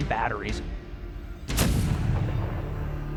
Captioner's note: cannon firing